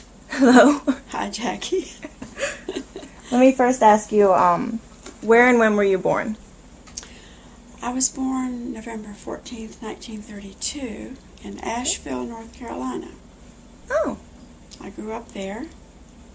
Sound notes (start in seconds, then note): 1.7 laughter